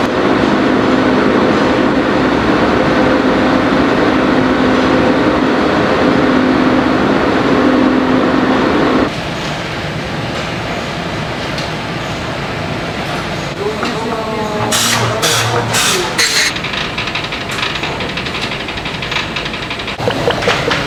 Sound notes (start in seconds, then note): 13.5 molding machine